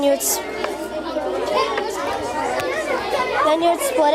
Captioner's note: students chattering